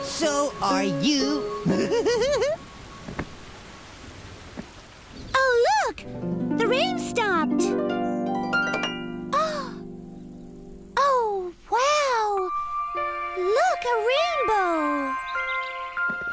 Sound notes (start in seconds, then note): 1.6 giggling; 9.3 gasps